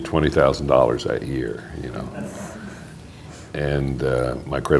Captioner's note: laughter